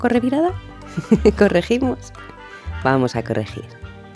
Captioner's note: laugh